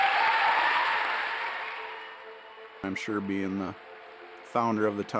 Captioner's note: audience applauding